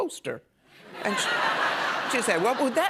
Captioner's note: laughter